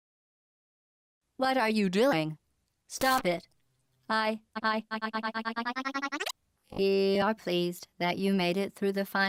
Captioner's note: bzzzz